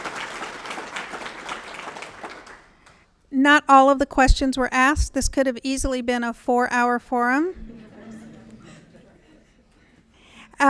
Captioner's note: applause